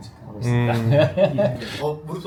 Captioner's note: chuckles